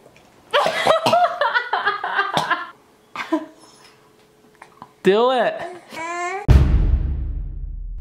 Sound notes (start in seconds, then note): 0.6 laughing